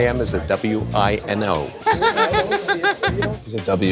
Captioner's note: laughs